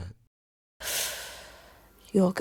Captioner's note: Miss Circle breathes furiously